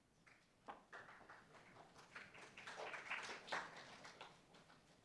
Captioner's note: applauds